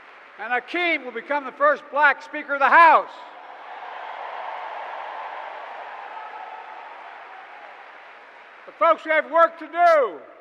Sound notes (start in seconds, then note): 0.0 applause; 3.4 applause